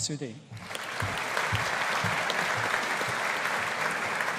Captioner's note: audience applauding